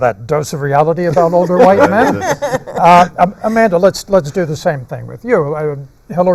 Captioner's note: laughter